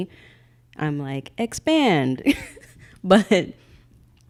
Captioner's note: laughing